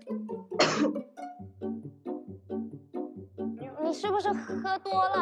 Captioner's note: tense cinematic music; man coughs; speaking Mandarin